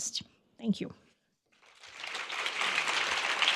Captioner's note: applause